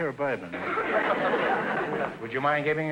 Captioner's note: audience laughter